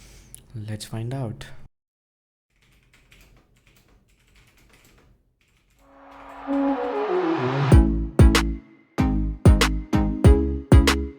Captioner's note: continues typing on the keyboard